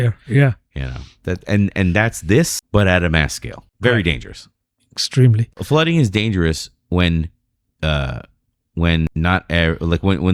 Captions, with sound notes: Yeah. You know that. And that's this. But at mass scale, very dangerous. Extremely flooding is dangerous when [UH] When not like when,